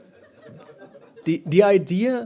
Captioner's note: laughter